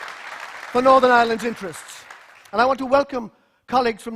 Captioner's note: applause